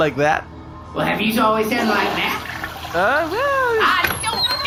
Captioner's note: Dag flushes